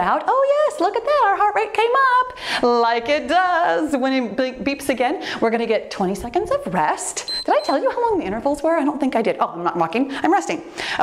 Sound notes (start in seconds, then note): 7.2 timer beeps